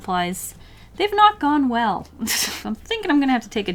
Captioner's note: soft laugh